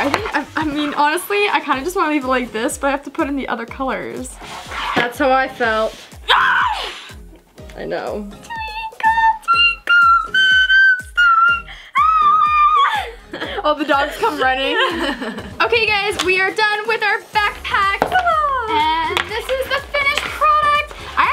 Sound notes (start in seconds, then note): 6.2 cries out; 12.6 laughs